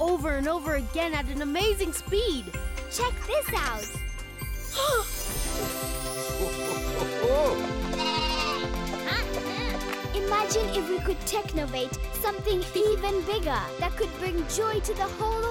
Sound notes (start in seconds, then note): 3.3 MB gasps; 6.2 bleating